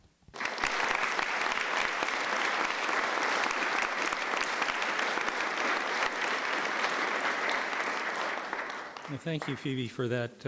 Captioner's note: applause